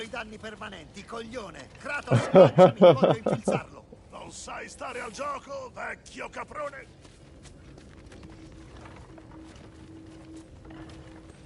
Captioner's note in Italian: risate